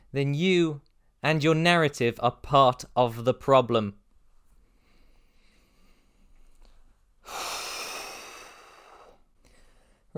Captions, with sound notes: then you and your narrative are part of the problem. (deep exhale)